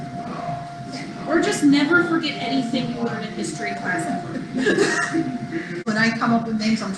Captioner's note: both laughing